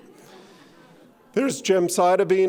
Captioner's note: audience laughing